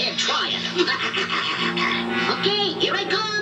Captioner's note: laughing Evilly